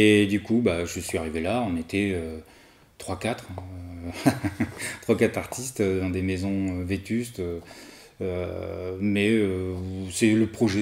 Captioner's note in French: rires